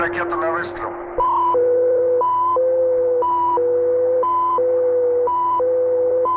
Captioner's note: soldier speaking in Russian; machinery beeping and whirring